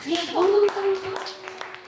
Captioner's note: applause; chatter